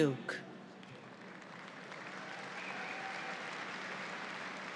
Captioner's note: audience applauds